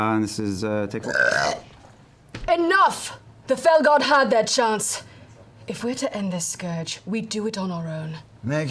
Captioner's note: burps